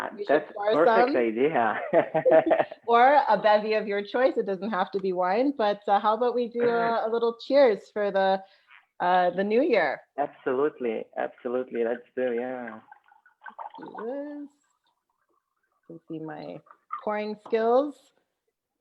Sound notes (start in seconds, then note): 12.2 wine pouring out of bottle